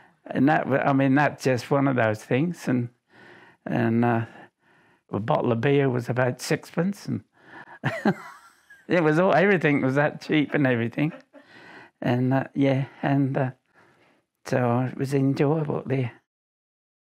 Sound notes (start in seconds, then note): 7.6 laughs